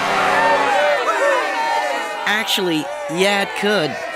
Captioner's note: cheering